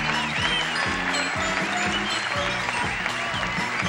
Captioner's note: audience cheering